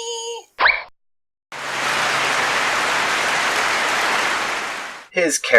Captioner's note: clapping